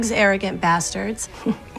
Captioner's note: scoffs